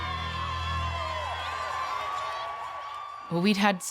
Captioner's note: players cheering